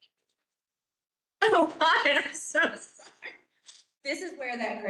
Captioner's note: laughs